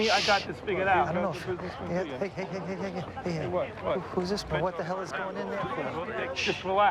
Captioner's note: men continue arguing